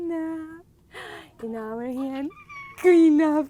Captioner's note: baby squeals with delight